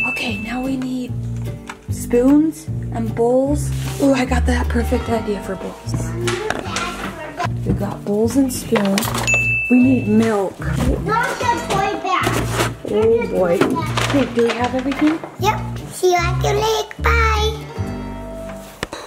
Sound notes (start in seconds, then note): 0.0 bell dings; 9.2 bell dings